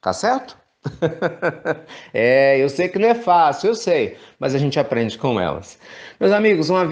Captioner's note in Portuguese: risos